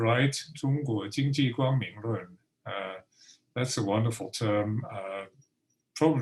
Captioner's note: speaking Mandarin